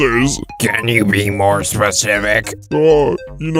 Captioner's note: off-screen voice